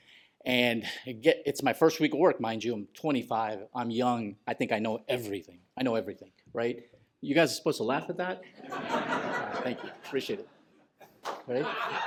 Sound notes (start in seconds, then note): 8.5 laughter